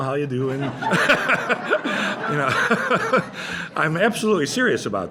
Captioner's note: laughter